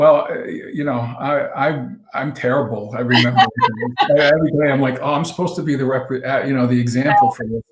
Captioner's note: laughs